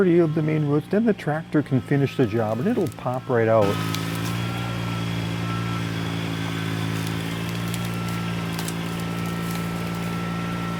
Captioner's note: tractor Engine